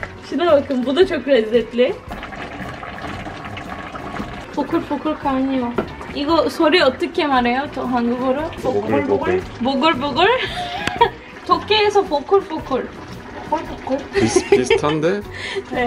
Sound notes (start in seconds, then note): 5.0 boiling up sound